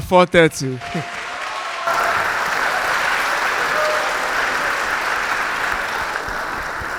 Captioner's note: crowd cheering; crowd clapping